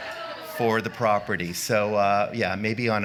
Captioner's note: groaning